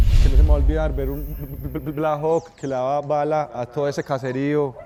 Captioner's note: man speaking Spanish